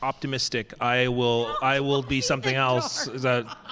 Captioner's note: laughs